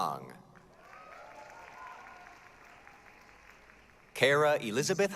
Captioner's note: applause, cheering